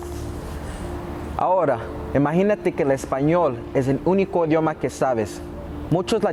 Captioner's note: speaking Spanish